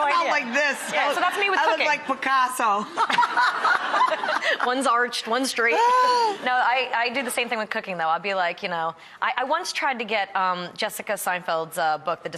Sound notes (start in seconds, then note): 3.0 laughs